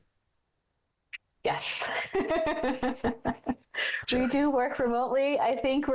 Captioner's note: laughs